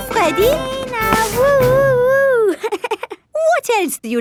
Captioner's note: chuckles